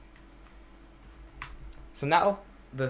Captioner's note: click